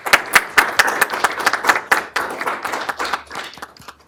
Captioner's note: applause